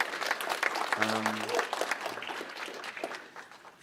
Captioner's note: applause